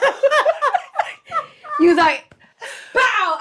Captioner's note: Treasure laughs